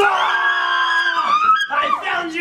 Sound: screaming

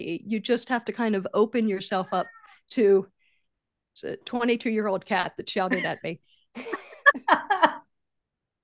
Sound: cat meows

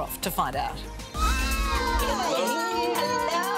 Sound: excited voices

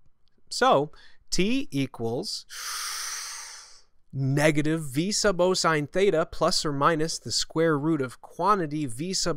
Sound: long inhale

